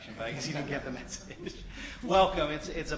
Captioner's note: laughter